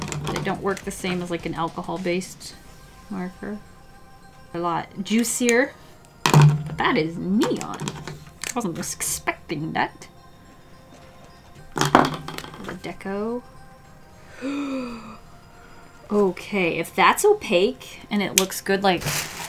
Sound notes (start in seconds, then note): 14.2 gasps